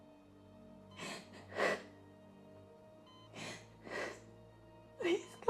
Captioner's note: sobbing